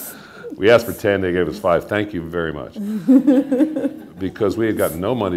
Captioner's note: laughter